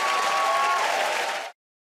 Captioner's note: cheers and applause